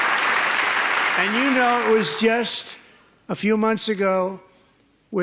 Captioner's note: applause